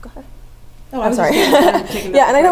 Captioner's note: laugh